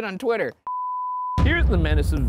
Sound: screen beeps

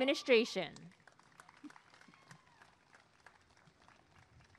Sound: applause and cheering

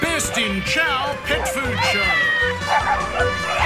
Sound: barking

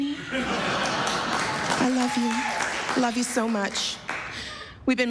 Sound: laughter

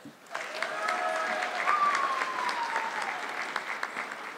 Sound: audience clapping

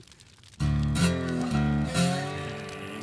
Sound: Joe growls

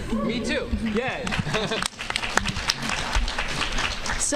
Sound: applause

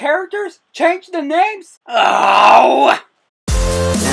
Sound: groans

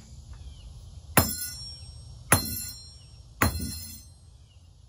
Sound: sound of pounding hammer

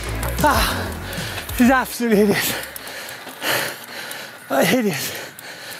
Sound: panting

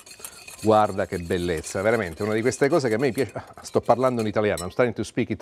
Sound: speaking Italian

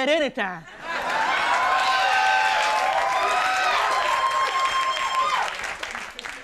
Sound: audience cheering and applauding

